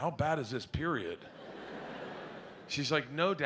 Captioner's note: audience laughs